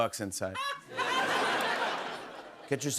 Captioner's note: laughter